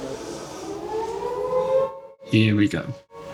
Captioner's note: air Raid Siren